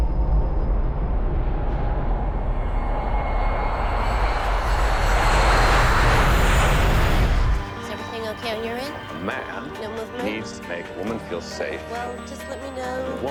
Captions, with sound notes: (screaming jumbo jet) - Is everything OK on your end? - The man needs to make the woman feel safe. - Well just let me know--